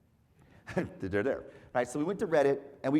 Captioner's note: laugh